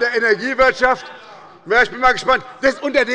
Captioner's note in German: Zuruf